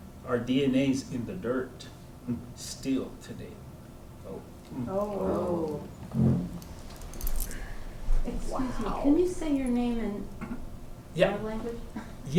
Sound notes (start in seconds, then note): 4.8 crowd wows